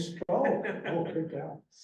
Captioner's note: laughs